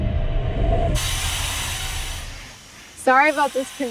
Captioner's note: machine buzzing